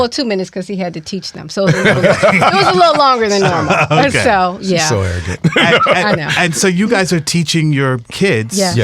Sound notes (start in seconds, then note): 1.7 all laughing